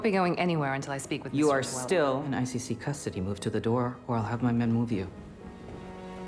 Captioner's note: voiceover